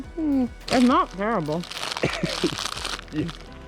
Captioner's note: laughs